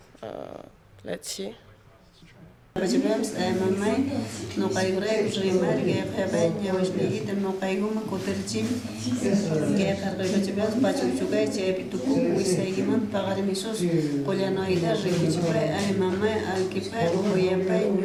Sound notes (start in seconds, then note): 3.8 non-english speech